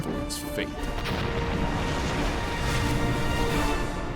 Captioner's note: explosion